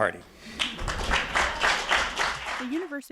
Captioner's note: audience applauding